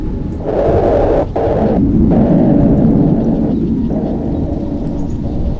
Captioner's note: A huge burst of wind